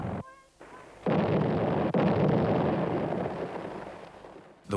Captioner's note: cannons fire